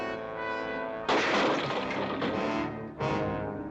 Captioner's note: crash; dramatic music